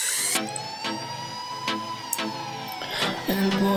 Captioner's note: sirens, music starts